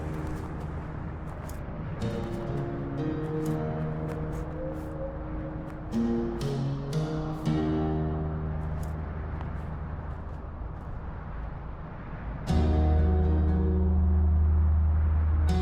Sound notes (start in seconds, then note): 0.0 wind whooshing; 1.1 gentle music